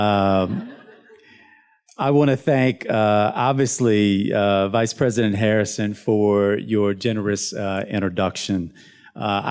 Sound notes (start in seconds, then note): 0.4 students laughs